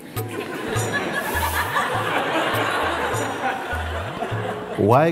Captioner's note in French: rires